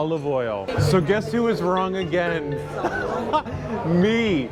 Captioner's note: laughs